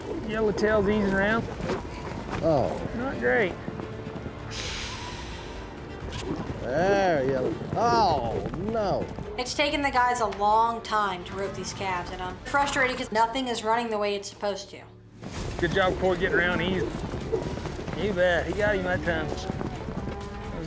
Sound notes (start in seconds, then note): 4.6 sighs deeply; 6.3 rope swirling